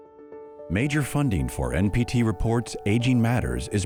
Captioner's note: voiceover